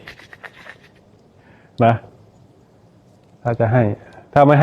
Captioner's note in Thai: เสียงหัวเราะ